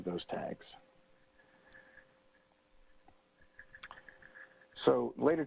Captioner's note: pause